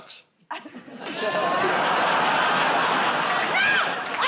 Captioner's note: laughter